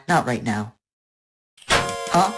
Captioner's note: door clang